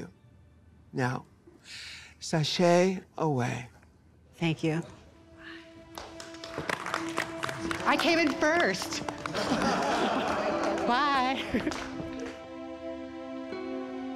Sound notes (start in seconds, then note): 5.9 applause; 9.3 laughter; 11.7 sad music